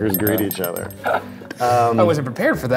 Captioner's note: metallic tinkling